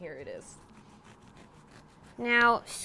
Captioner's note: scraping